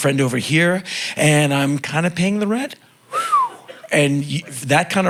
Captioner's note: whistling